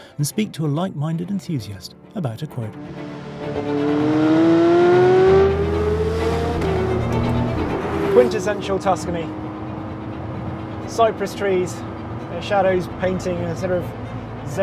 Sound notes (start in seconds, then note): 2.8 engine revving; 3.9 classical music